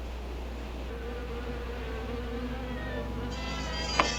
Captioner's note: buzzing; mysterious music